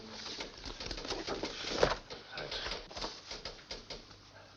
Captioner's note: person typing